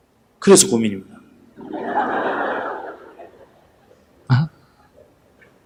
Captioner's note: audience Laughter